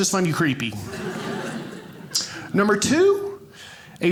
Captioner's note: audience laughing